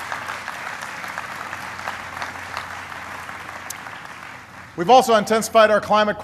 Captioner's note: applause